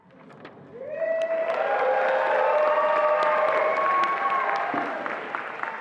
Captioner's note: attendees applauding and cheering